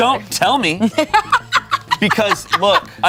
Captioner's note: laughs